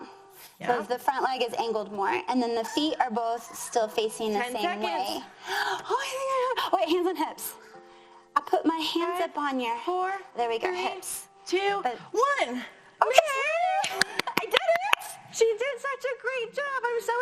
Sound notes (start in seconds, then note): 5.3 gasps; 13.8 clapping